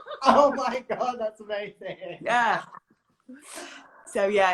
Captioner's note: laughs